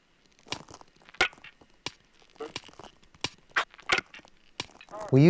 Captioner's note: toy rustling